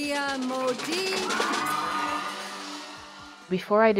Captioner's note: crowd cheers